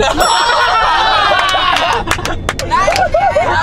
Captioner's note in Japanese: 爆笑